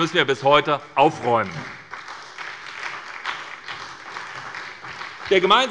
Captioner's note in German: Beifall bei der SPD